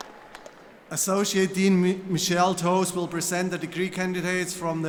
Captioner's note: applause